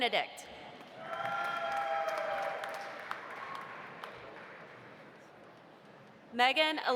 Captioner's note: audience applauding; audience cheering